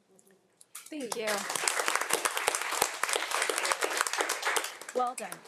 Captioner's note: audience applauding